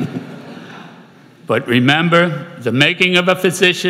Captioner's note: laughter